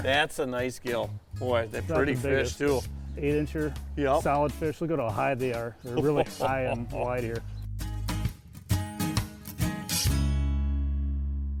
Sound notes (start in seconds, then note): 5.8 chuckles; 8.3 cheery reggae music